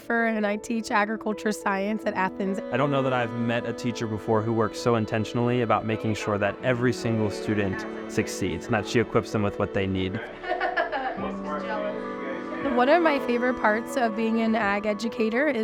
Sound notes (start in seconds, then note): 10.1 laughs